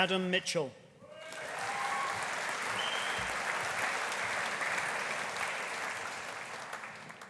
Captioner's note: audience cheering; audience applauding